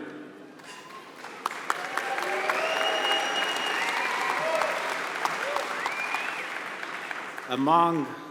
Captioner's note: applause